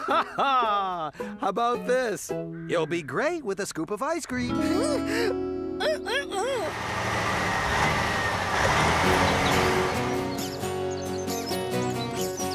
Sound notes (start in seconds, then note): 5.2 gasps; 6.6 engine Running